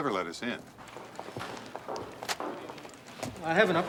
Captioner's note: footstep